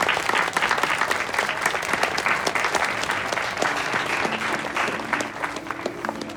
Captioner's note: clapping